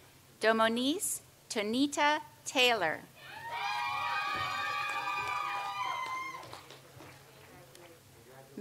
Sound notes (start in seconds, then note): 3.2 audience cheers and applauds